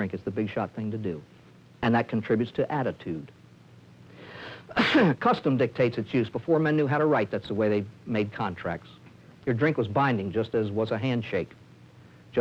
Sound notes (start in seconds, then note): 4.6 cough